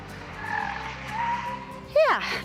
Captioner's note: car tires squeak